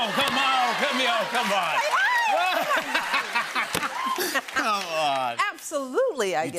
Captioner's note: both laugh